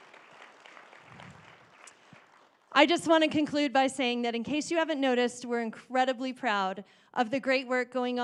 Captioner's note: applause